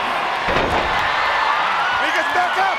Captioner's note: crowd cheers